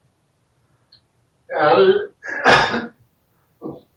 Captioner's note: sneezes